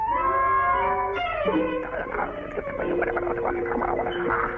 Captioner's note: muttering